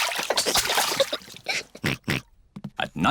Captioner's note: oinks